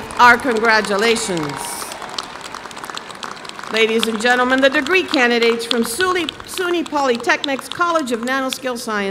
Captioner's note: applause